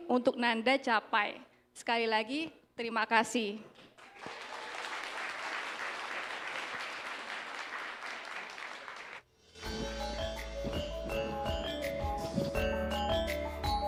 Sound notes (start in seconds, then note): 3.9 applause